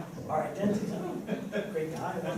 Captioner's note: laughter